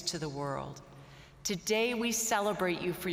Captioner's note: none